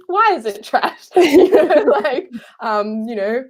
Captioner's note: laughing